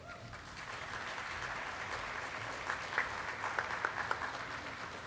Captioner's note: audience cheering and clapping